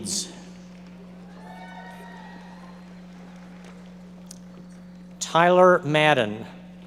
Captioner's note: audience members applauding